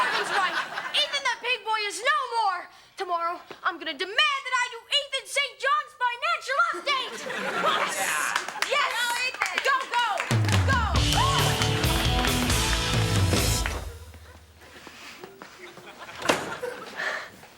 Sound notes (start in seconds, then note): 0.0 audience laughing; 7.0 audience laughing; 10.3 upbeat music; 11.1 students applaud and cheer